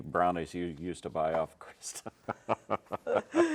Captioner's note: laughing